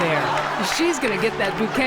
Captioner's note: audience laughs